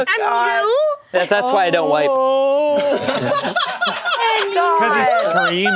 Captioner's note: group laughing